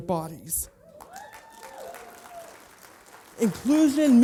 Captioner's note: applause